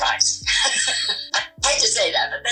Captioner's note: laughing